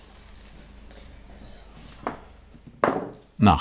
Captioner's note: quietly